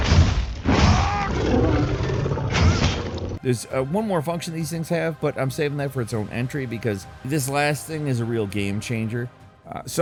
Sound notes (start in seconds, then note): 0.7 monster growling